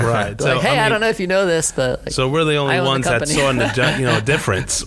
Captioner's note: laughing